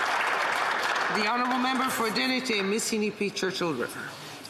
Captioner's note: some Applause